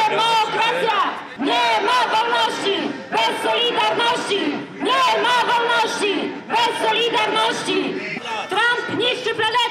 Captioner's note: chanting; chanting?